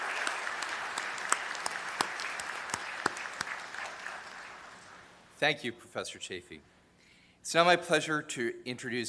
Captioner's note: applause